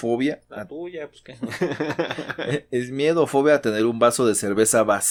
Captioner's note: laughs